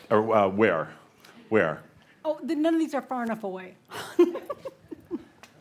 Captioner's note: giggles